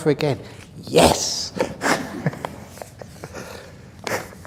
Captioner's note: laughter